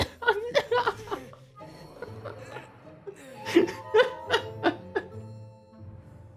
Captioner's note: laughing